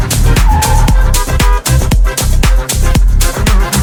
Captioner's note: car beeps